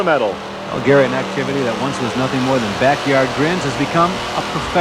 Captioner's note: audience cheering; voiceover